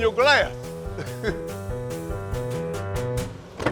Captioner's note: chuckling; car door clacking open